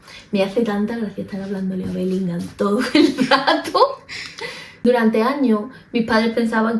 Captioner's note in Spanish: risas